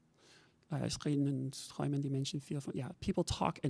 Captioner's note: talking in a foreign language